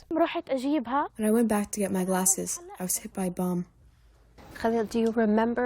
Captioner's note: through translator